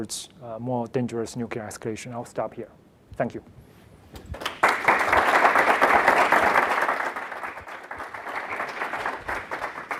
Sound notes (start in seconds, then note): 4.2 applause